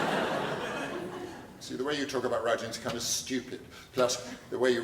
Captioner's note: laughter